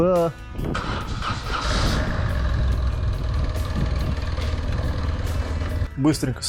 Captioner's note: Triumph Rocket 3 started up